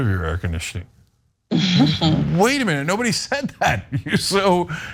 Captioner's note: laugh